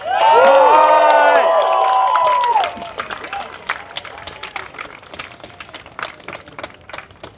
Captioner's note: applause